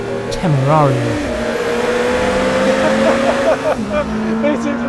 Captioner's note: engine roaring